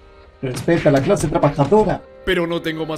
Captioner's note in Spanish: ruidos de golpes